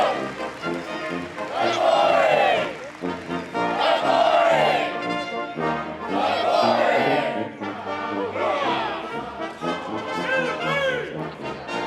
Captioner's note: troops cheering